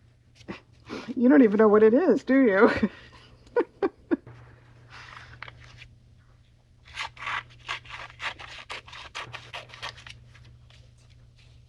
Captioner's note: laughs